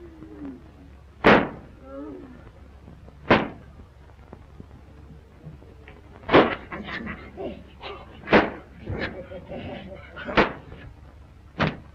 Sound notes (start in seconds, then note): 1.2 thudding; 6.2 laughing